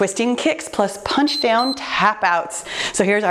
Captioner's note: timer beeps